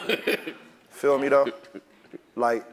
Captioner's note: laugh